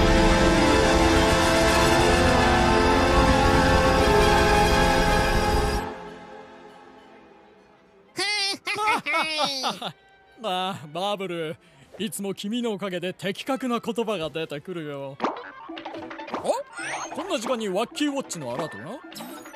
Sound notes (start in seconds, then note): 5.7 indistinct chatter; 5.7 music fades; 8.2 both laughing; 16.4 goofy cartoon sound effects playing